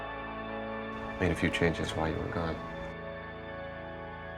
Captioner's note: voiceover